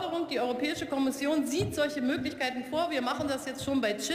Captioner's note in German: none